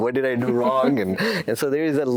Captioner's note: laughs